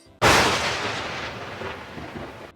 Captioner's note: thunder claps